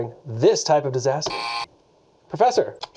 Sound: buzzer buzzes

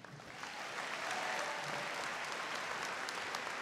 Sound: applauding

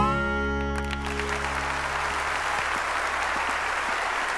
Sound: audience applauding

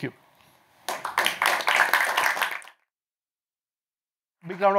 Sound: applause

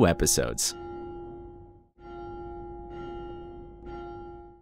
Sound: chiming bell

